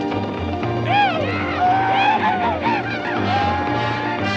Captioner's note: whooping